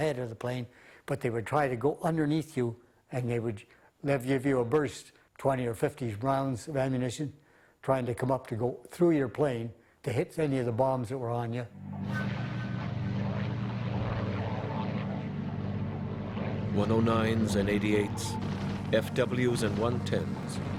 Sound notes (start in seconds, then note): 11.5 soft orchestral music; 11.8 rumbling motors